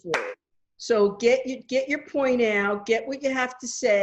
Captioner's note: clapping